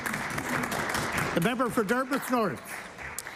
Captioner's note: applause